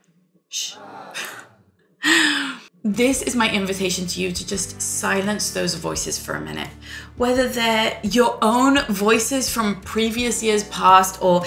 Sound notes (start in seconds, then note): 0.8 laughing